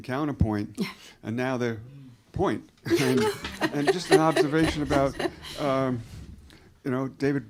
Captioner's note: laughter